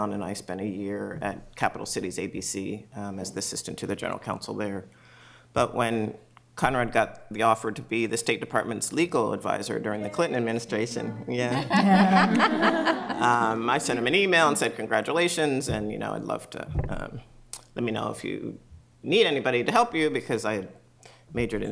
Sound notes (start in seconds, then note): 11.5 laughter